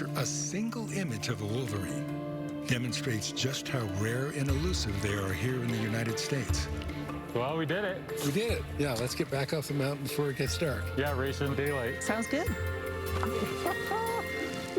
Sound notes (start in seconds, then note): 13.7 laughing